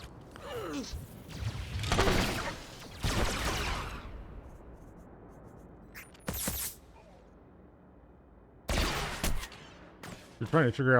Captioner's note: gunshots